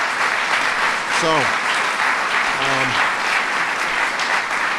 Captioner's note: applause